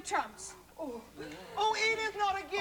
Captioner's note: moaning